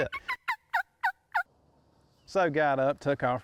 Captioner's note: turkey call clucking